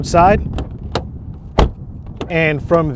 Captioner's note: car door shutting